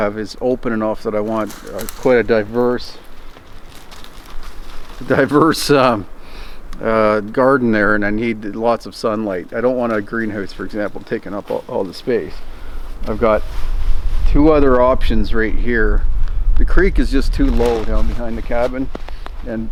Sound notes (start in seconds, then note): 3.4 branches crackling; 5.0 chuckles